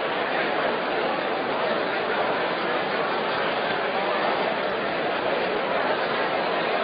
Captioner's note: general crowd noise